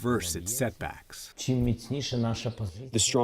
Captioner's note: through translator